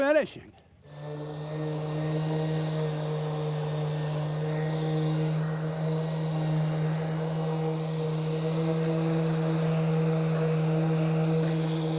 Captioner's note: orbital sander hums